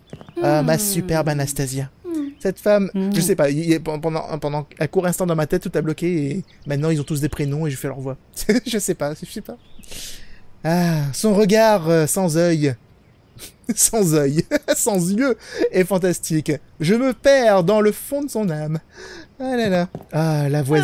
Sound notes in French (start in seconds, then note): 9.2 Rires; 14.4 Rires